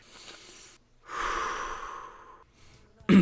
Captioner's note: inhale